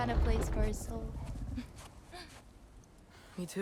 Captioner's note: laugh